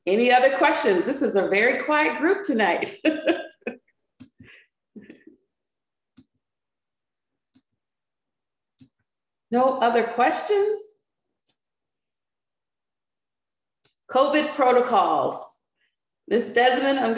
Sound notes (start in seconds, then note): 2.9 laughs